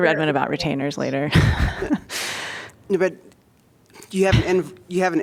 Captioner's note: laughter